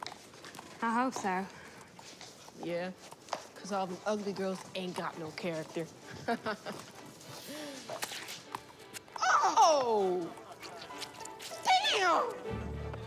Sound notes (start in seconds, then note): 6.3 Tyrell laughs; 7.5 squish